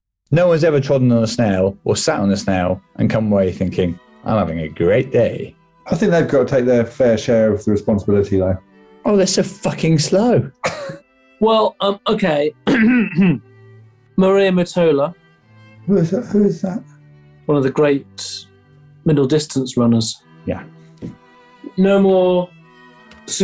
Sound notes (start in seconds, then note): 10.6 laughing; 12.6 clears throat